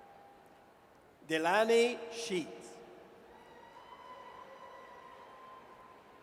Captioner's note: audience cheers